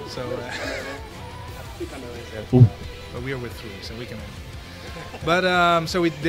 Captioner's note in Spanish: risas